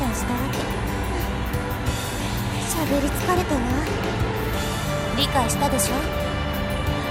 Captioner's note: weary sigh